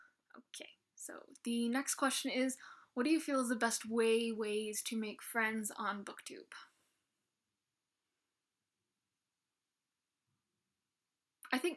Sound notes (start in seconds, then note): 9.0 pause